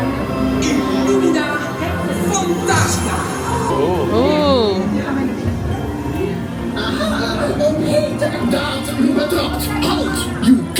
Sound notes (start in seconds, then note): 1.2 jester speaking in foreign language; 7.1 character speaking in foreign language